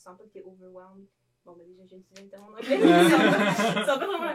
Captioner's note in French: rires